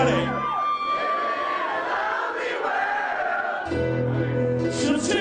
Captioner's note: crowd